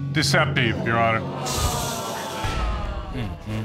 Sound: audience groans

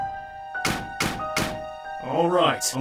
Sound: metals clanking

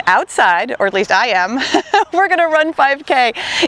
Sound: laughs

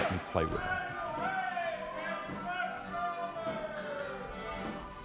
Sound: man hollering

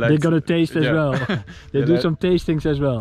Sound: laughs

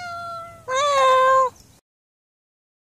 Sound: cat meows; meows

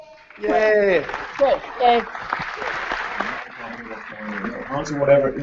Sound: applause

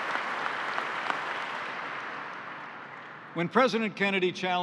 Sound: applause

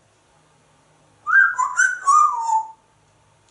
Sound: whistles

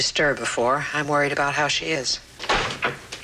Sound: door opens

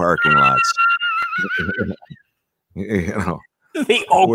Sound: laughing

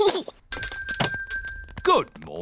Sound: gasps; giggles; bell rings

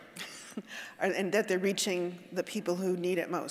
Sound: chuckling

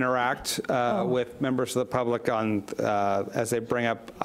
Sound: none

